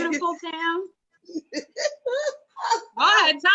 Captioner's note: laughs